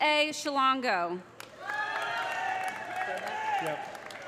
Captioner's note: audience applauding; audience cheering